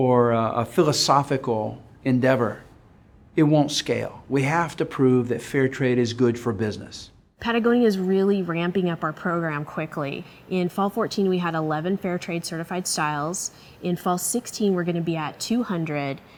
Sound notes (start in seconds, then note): none